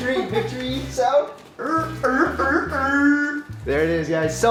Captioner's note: groaning